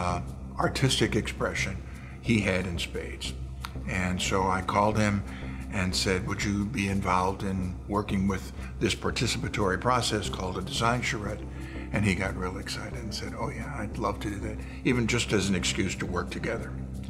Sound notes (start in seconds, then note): none